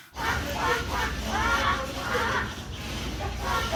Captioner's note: chickens clucking